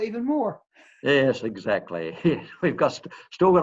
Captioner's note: laughs